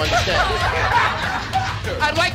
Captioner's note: laughter